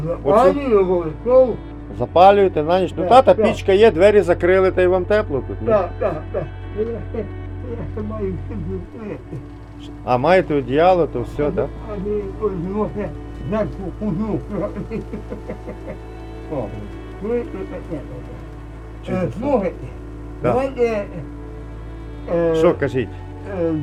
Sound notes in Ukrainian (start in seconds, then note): 14.8 сміеться